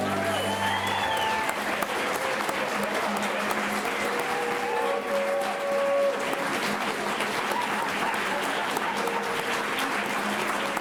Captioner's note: clapping